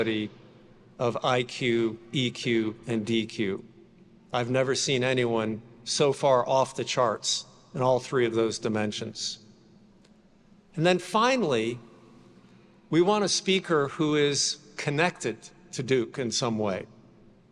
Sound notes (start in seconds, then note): none